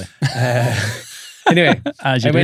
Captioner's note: laughter